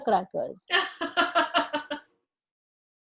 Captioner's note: laughs